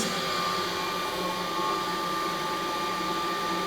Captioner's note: pipes hum